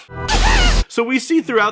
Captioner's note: shrieks